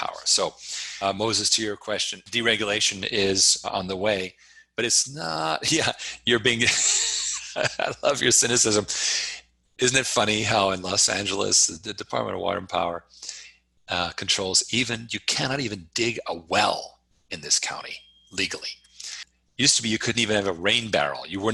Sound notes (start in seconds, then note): 6.6 chuckles; 6.7 laughs